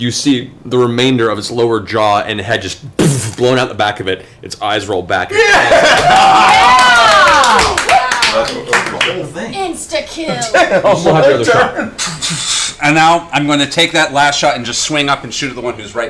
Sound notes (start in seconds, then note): 5.4 cheering